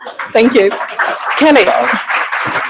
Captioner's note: audience laughing; audience applauding